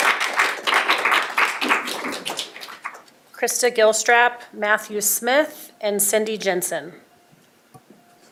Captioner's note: applause